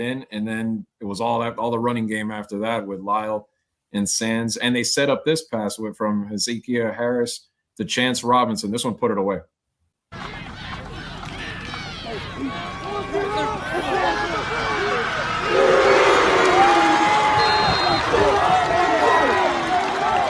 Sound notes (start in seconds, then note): 10.1 applause